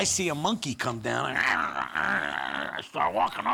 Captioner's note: growling